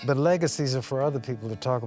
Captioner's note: laughing